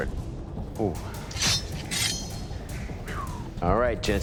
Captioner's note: blade clanking